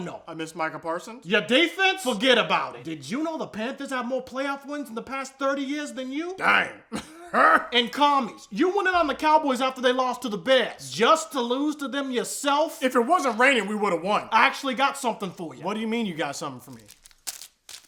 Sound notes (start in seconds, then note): 6.8 even weirder laughing